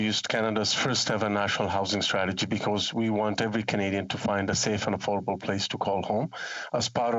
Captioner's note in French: voix de l'interprète